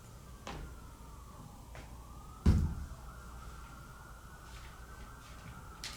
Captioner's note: distant sirens